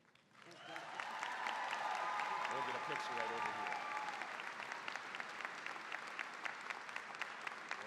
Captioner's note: cheering, applause; applause